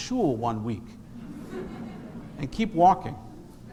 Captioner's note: congregation laughs